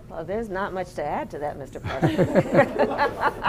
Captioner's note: laughter